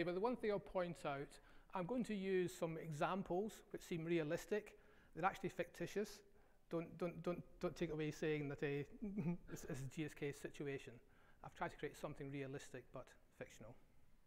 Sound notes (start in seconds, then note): 9.0 laughs